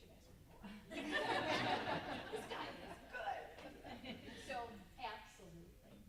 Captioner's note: group laughs